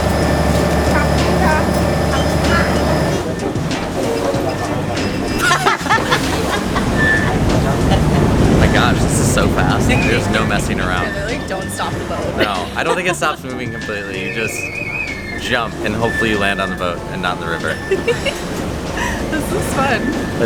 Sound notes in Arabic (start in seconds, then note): 5.3 يضحك بشكل هستيري; 5.9 يضحك بشكل هيستيري